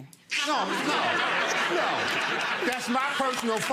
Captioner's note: audience laughs